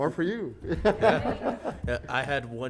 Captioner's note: panelists laughing